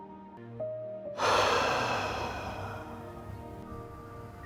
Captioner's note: deep breath